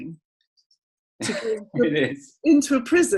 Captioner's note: laughs